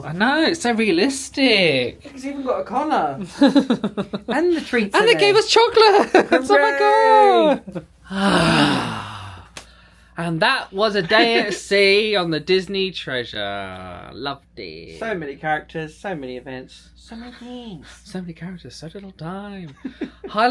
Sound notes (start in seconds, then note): 3.3 laughing; 8.0 pair sighs